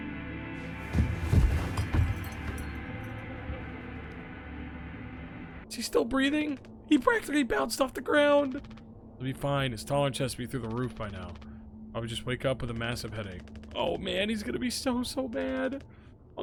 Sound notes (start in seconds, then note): 0.8 Swansea thuds to the floor; 1.3 glass clinking